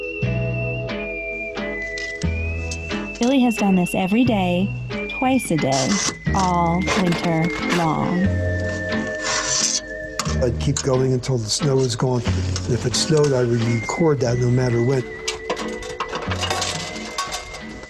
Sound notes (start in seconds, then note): 10.2 metal clanking; 15.2 metal clanking; 17.7 peaceful music